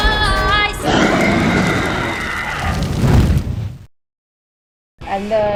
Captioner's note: roar